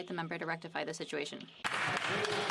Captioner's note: speaking French